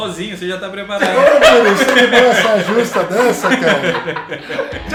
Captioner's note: laughter drowns words